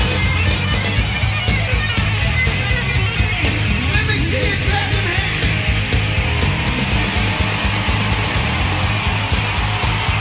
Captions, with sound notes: Let me see ya clap them hands! (audience cheering)